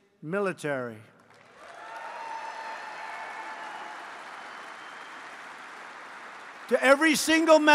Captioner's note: applause